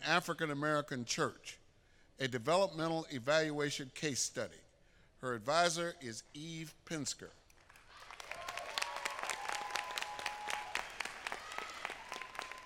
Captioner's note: applause